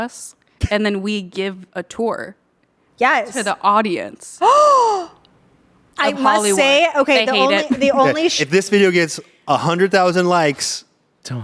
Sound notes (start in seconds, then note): 4.4 gasps